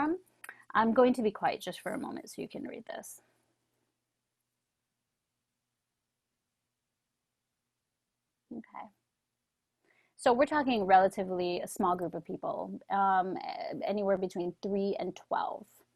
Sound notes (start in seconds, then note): 6.9 silence